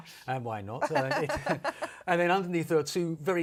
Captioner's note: laughter